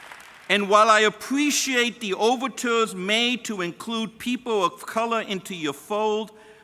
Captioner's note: applause